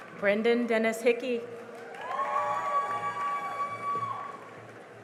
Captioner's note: cheering and applause